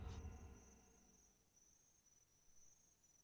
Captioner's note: insects chirping